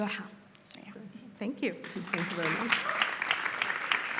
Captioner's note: audience applauds